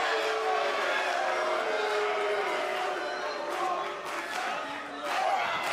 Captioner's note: cheers & boos; fans chanting